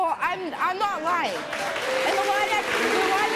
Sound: audience applauds

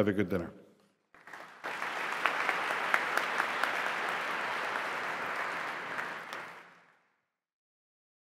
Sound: applause

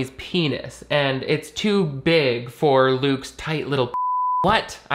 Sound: beep

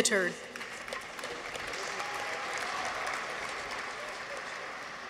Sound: audience applauds

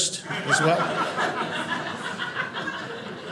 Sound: audience laughing

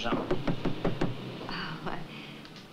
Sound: knocking

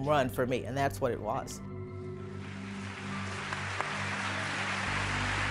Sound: audience applauding

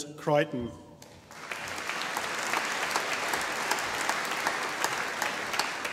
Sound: audience applauding

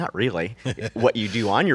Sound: laughs

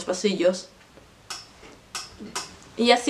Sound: chair squeaks

